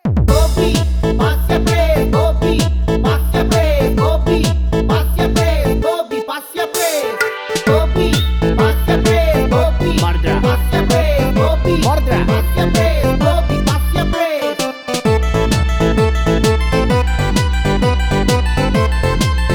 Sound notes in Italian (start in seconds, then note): 8.1 FIschio